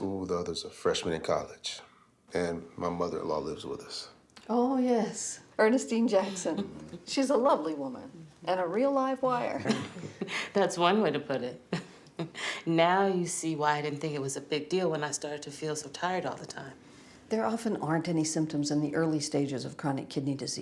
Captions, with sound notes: the other's a freshman in college. And my mother-in-law lives with us. - Oh, yes. Ernestine Jackson. She's a lovely woman and a real live wire. (all chuckling) - That's one way to put it. Now you see why I didn't think it was a big deal when I started to feel so tired all the time. - There often aren't any symptoms in the early stages of chronic kidney disease.